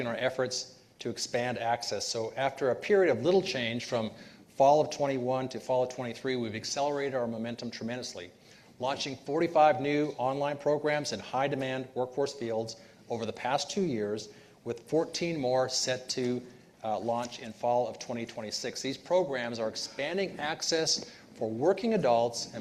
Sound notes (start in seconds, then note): none